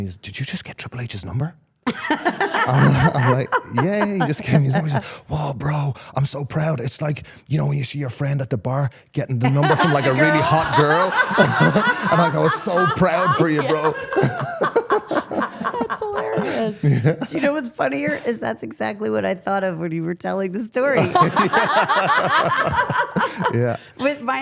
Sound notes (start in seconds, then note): 1.9 Stephanie laughing; 1.9 laughing; 11.0 everyone laughing; 14.2 laughing; 14.7 everyone continues laughing; 21.0 everyone laughing